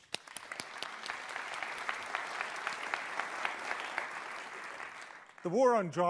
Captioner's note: applause